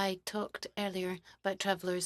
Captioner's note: speaking French